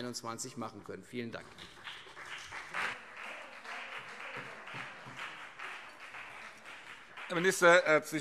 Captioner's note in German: Beifall CDU und BÜNDNIS 90/DIE GRÜNEN